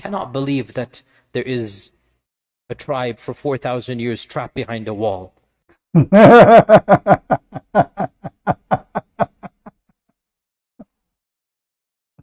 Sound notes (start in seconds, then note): 5.9 Ketawa